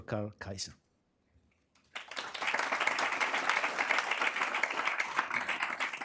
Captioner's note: applause